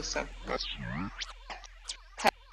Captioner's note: tape rewinds